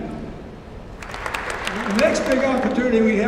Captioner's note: applause